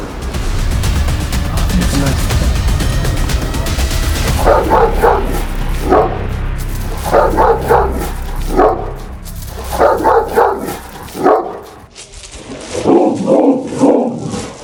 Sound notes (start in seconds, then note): 0.1 tension music; 4.4 barking sounds and tension music